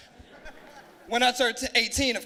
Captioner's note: laughing